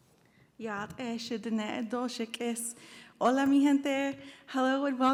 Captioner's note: speaks in foreign language